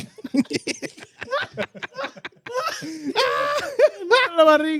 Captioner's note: laughing